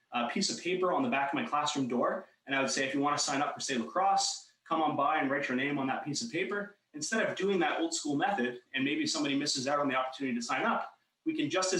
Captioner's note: talking fast